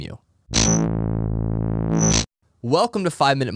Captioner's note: logo whoosh